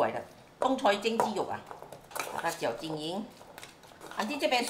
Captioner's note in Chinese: 廣東話